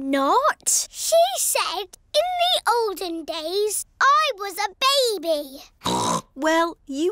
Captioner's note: snorts